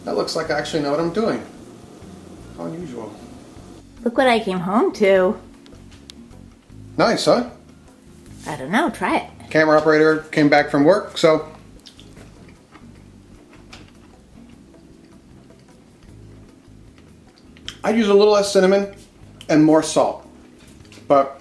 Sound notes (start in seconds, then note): 11.6 chews